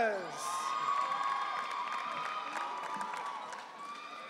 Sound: audience cheering

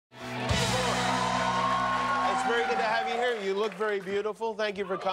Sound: cheers and applause

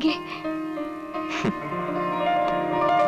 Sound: chuckles

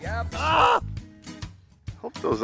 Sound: shouts

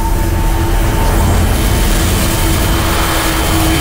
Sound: whooshing increases

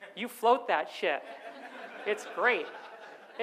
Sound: audience laughs

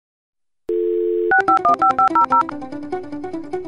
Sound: modem dial up sound

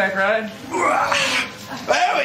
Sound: grunts

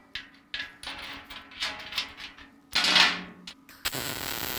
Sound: metal clanking

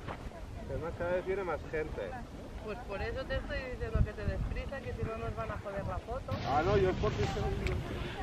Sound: people speaking... Italian, perhaps?

